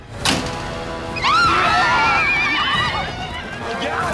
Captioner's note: screaming